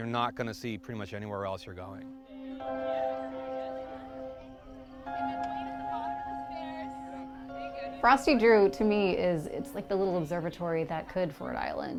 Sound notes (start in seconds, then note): 2.2 people chattering; 2.3 light music